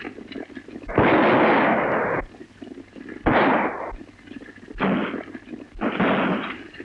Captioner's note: gun shots